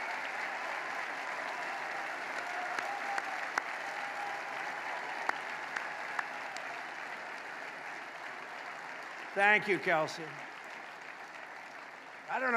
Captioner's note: applause